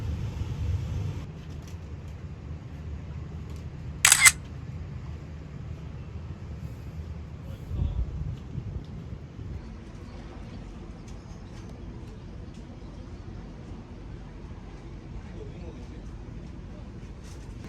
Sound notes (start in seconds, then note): 4.0 click